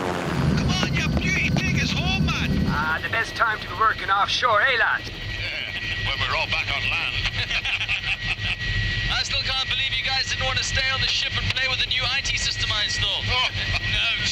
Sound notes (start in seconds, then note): 7.2 all laughing